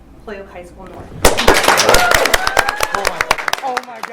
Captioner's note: audience cheers and claps